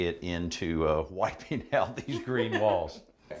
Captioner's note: chuckling